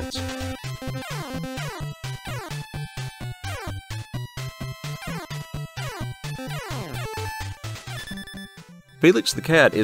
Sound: game sounds

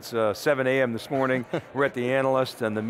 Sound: giggles

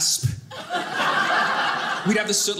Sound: audience laughing

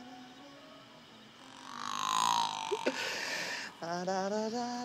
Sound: humming; croaking; humming

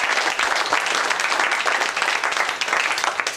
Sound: applause

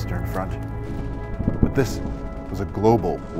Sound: distant rumbling

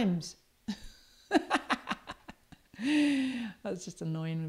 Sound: laughs

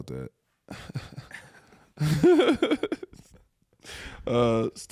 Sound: laughing

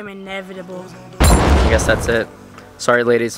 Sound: gunshot

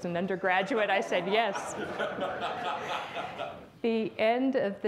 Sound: audience laughs

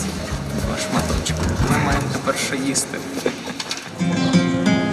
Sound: laughs

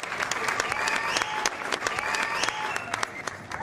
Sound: applause

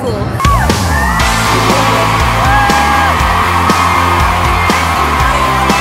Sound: crowd cheering

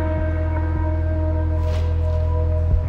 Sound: cloth coming off motorcycle

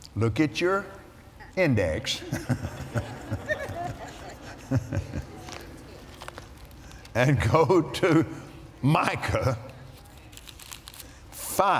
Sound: laughs

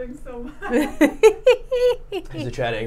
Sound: chuckles

